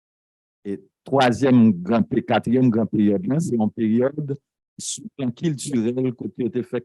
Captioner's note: speaking a foreign language